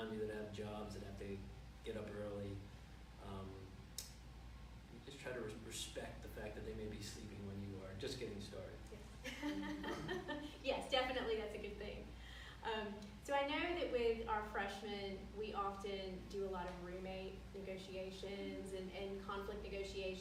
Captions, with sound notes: that have jobs that they get up early and just try to respect the fact that they may be sleeping when you are just getting started. (laughing) - Yes definitely, that's a good thing. So I know that with our Freshman we often do a lot of roommate negotiations and conflict negotiations